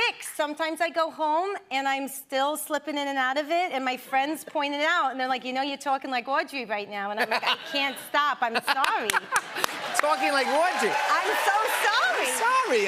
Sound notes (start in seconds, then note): 9.6 new York accent